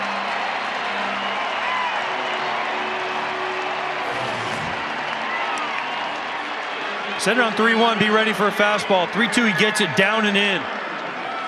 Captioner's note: cheers and applause